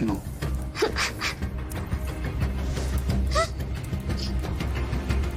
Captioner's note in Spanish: Sollozos